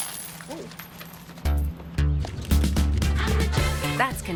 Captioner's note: coins falling